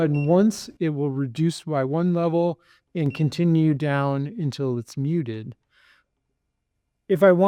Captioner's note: device beeps